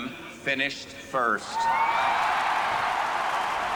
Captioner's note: cheering